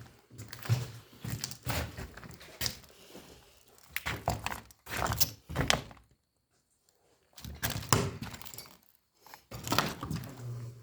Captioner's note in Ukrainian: кроки, хрускіт